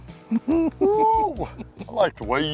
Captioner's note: laughter